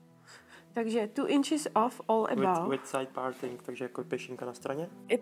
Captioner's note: speaks in czech